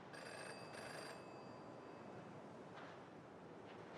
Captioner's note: phone rings